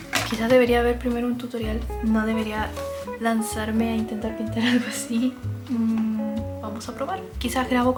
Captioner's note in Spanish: risas